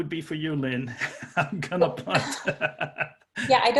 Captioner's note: laughing